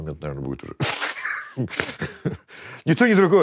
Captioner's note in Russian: усмехается